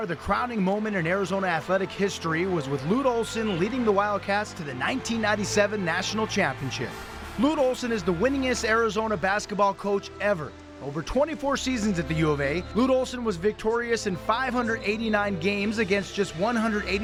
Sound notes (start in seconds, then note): 7.9 nat up, celebration